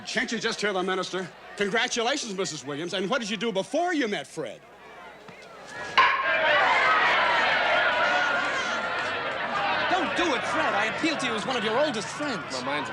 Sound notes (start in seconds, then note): 5.9 bat hitting ball; 8.0 cheering